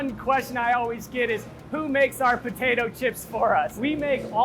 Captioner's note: chuckling